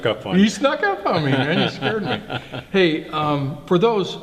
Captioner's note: laughs